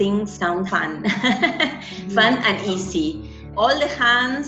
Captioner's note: laughs